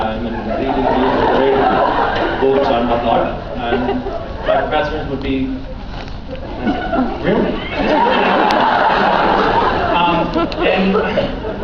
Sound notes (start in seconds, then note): 3.0 laughs; 4.5 dropping accent; 5.5 laughs